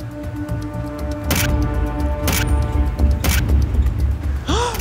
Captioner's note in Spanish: Sonido de cámara